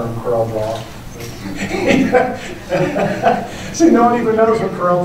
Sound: laughter

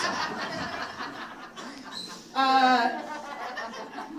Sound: audience laughing

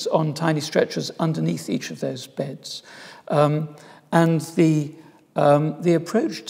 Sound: none

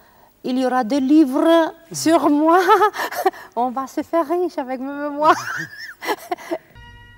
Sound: laughs

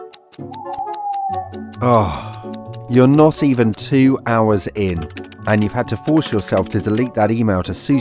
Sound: sigh

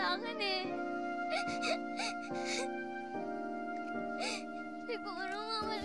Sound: sobbing

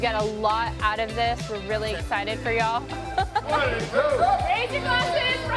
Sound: laughs

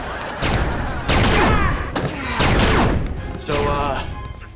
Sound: grunting

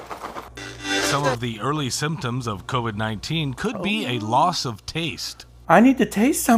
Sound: radio

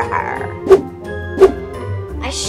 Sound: whoosh

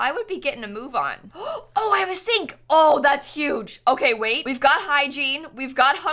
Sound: gasps

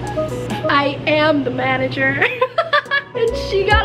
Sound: laughs

